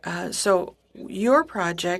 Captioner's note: speaking French